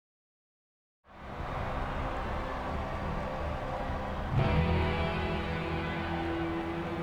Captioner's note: crowd cheering; eerie music